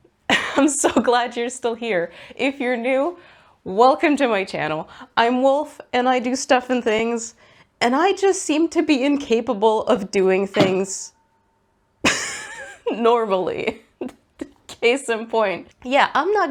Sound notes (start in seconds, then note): 0.0 laughs; 12.1 big clonk, pause, and laughter